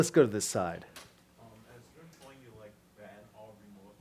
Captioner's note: voiceover